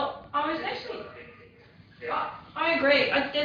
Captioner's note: audio distorts